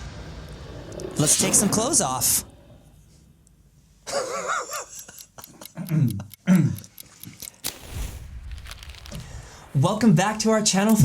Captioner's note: laughing at his own joke